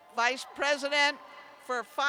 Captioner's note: cheers